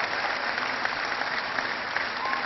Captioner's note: cheering